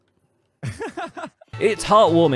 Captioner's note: laughs hesitantly